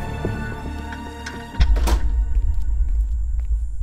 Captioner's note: Door closes